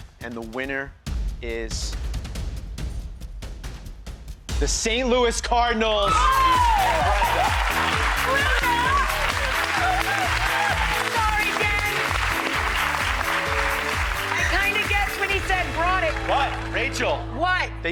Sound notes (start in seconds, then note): 1.9 suspenseful music; 6.2 clapping